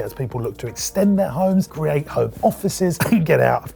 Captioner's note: coughs